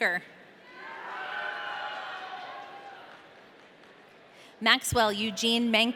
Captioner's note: audience cheering